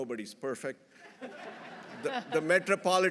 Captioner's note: everyone laughing